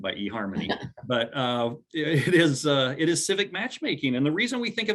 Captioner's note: laughs